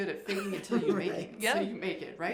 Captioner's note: laughs